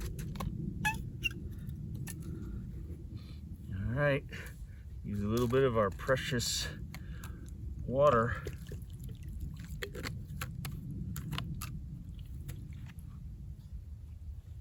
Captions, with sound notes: Alright. Use a little bit of our precious water. [water gurgling] [gravel sliding in water]